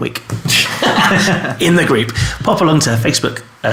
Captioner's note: laughing